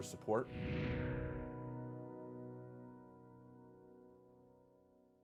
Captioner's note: slow diminishing sound